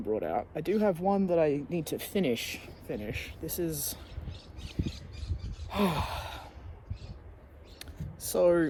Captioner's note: heavy sigh